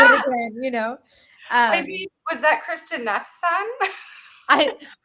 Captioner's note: laughing